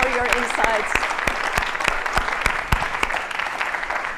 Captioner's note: applause